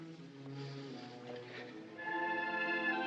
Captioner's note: inhales